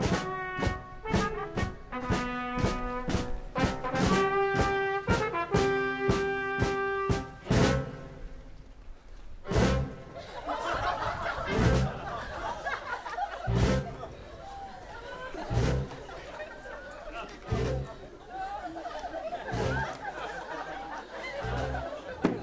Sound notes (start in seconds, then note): 0.0 fanfare; 9.6 crowd laughs